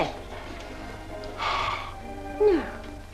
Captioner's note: Chris breathes on Adele